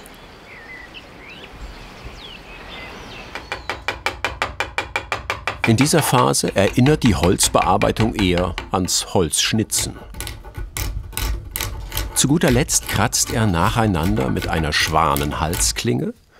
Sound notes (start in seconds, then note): 0.0 birds chirping